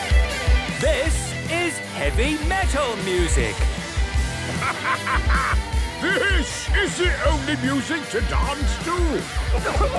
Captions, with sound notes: - (shouting) This is heavy metal music! - Ha, ha, ha, ha! This is the only music to dance to!